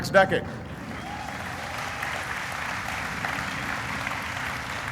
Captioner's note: applauding